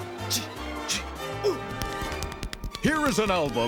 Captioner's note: tapping